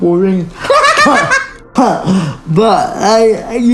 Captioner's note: laughing